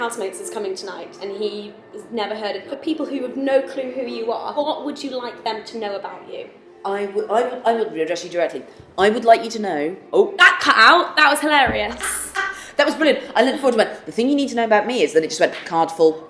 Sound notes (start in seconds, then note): 11.9 laughing